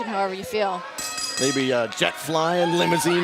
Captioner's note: bell ringing